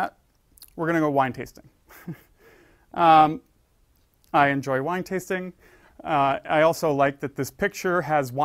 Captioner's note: laugh